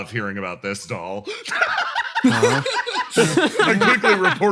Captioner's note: laughs